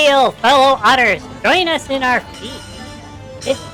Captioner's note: booming voice; whispering to Ollie